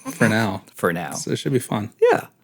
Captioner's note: snickers